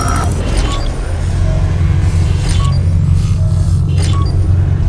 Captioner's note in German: Videospielgeräusche